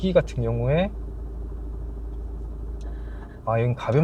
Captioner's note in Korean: 배기가 열리는 소리가 들린다